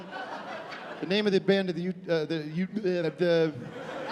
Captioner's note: stammering